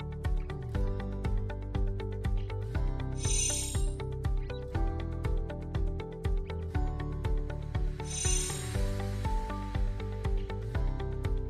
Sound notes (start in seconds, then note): 3.2 chimes tinkling; 8.1 chimes tinkling